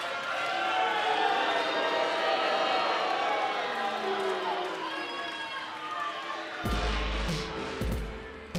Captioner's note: cheers and boos